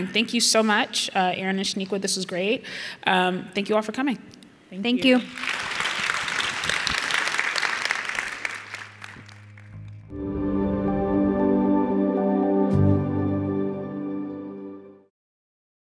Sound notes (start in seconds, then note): 5.0 audience applauding; 9.7 bright music